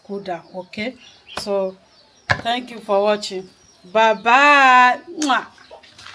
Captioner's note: kisses